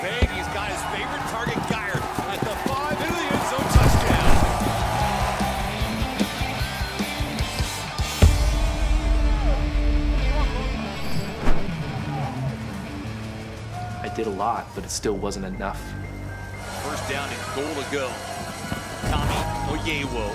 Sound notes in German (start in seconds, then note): 0.1 Kommentatorenstimme auf Englisch; 4.2 Jubel; 5.3 Lockere Rockmusik; 12.1 Musik verklingt